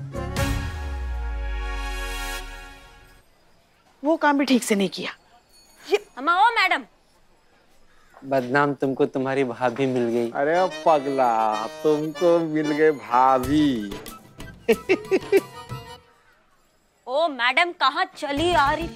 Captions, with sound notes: Didn't even do that correctly. Hey, madam! Badnaam, I found my wife. Hello, mister. That's my wife I'm seeing there. [giggling] Madam, where do you think you're going?